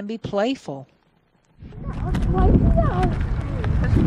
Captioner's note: wind blowing